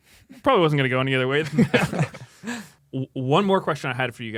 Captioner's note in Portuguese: risos